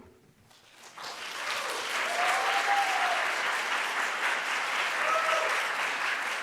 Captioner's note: audience cheering and applauding